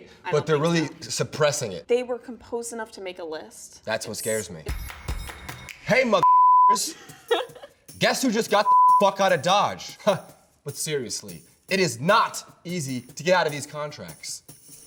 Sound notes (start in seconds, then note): 6.7 laughing; 8.6 beep